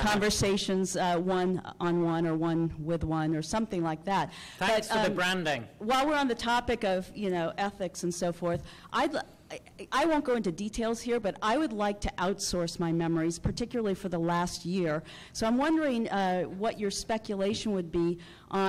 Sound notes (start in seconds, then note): 5.9 voiceover